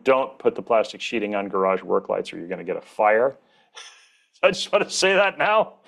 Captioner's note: laughs